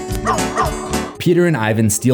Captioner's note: bright upbeat music; dog barks